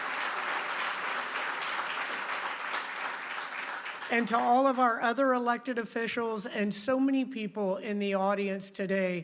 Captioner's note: applause